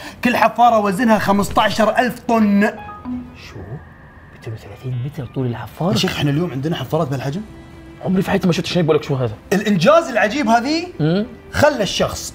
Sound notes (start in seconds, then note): none